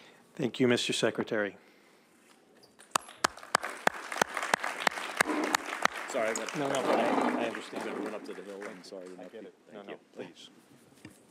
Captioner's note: applause